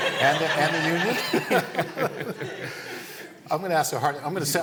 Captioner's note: laughter